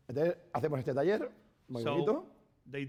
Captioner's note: speaking spanish